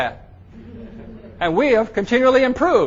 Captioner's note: audience members laugh